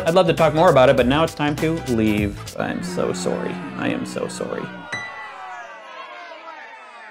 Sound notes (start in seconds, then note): 2.4 music cuts; 2.6 booing; 3.2 Canadian accent; 4.9 ding